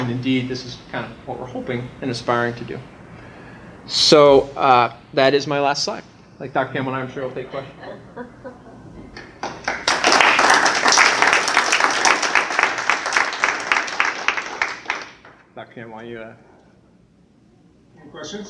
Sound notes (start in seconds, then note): 9.2 applause